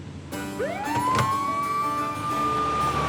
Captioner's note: siren wailing